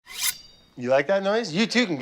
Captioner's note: knife scrapes